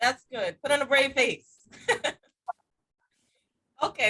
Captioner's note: giggling